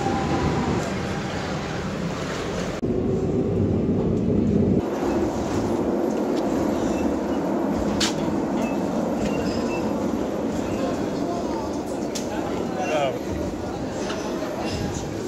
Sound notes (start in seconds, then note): 0.2 metro sounds